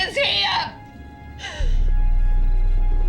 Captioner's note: sobbing